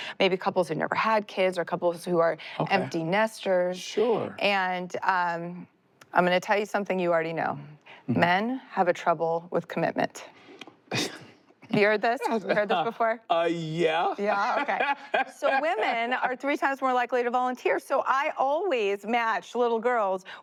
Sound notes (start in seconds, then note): 12.2 chuckles; 13.9 laughs